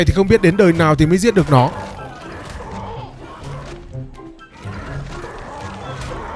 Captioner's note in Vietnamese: rên rỉ